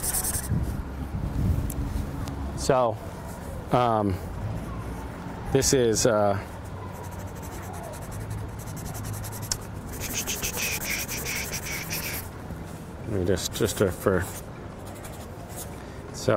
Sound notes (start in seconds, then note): 0.0 drawing sounds; 8.3 drawing sounds